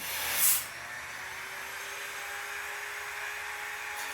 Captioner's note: loud buss saw